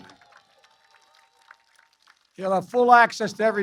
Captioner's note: applause